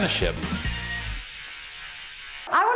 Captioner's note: bicycle wheel spinning